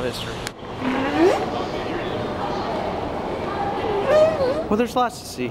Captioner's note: whale calls